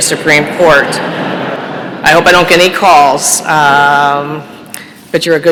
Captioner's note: laughter